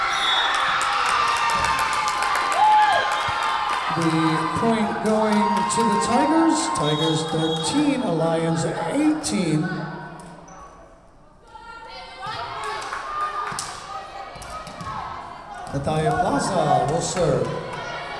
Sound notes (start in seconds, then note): 0.0 crowd cheering; 0.0 whistle blowing; 9.8 whistle blowing